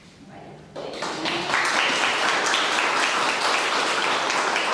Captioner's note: audience clapping